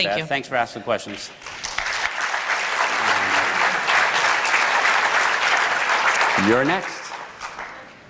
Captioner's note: applause